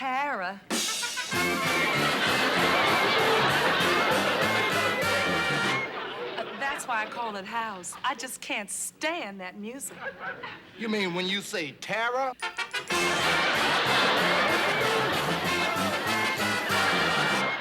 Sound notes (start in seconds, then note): 0.7 upbeat orchestral music; 12.5 laughter